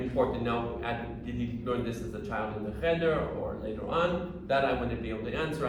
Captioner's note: hebrew